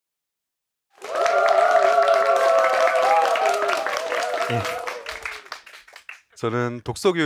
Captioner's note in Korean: 박수와 환호